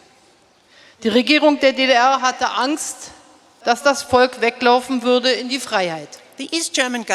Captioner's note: speaking in German